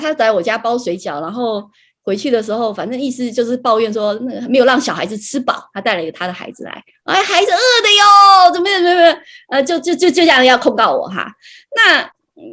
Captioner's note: speaks